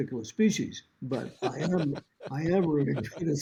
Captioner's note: host laughs